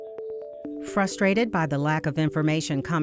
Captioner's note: voiceover